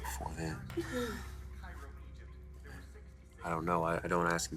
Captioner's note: Molly sighs